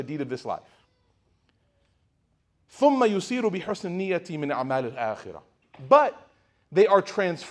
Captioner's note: speaking Arabic